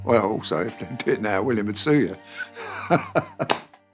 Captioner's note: laughs